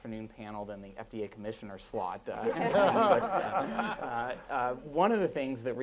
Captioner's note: laughing